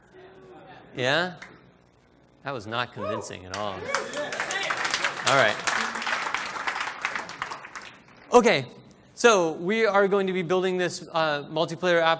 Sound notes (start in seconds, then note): 3.5 applause